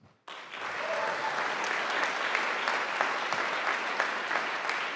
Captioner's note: audience applauding